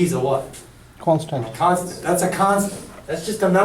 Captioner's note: voiceover